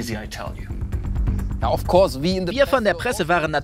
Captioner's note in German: englisch